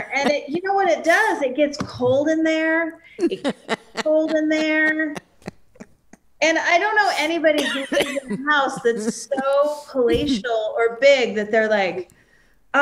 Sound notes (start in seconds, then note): 7.1 coughs